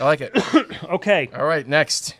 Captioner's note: coughs